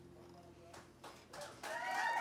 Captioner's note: clapping